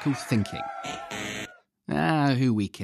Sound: buzzer

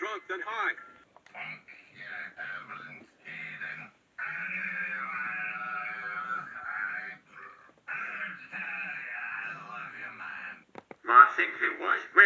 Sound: A.I drunk noises

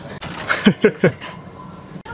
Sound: laughs

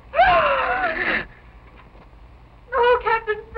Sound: gasping

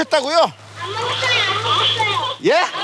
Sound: children in the background

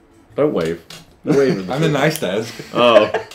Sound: laughing

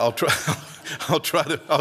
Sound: laugh

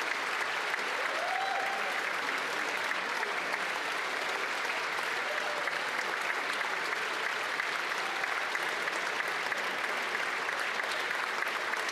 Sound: applause

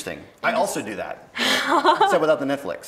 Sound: laughs

